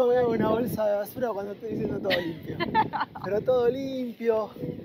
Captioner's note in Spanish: Risas